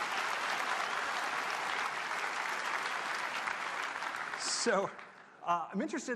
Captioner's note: applause